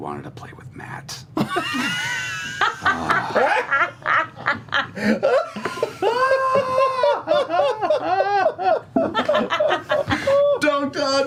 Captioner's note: laughter